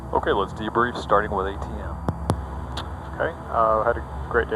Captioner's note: man On Radio